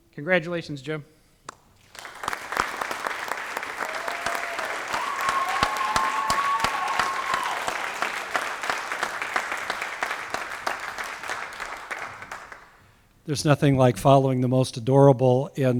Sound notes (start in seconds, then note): 1.7 applause